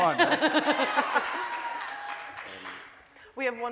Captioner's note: laughing